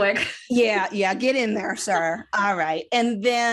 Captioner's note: giggling